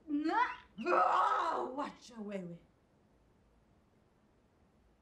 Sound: yells

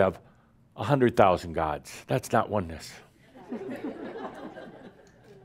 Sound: laughter

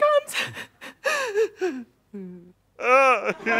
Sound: shaky breaths; deep, male voice sobbing

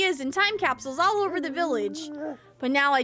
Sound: Donald Groans

